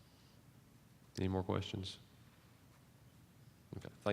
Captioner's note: silence